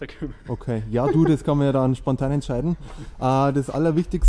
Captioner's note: haha